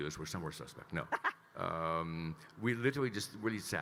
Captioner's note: laughing